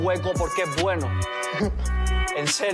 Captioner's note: laughs